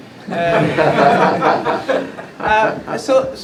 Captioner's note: laughter